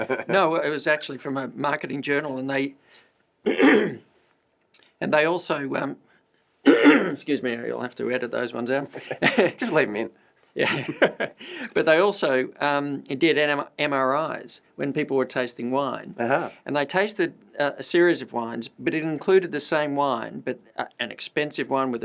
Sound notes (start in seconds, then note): 6.6 coughs; 10.6 laughter